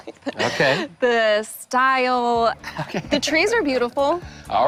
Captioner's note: laughing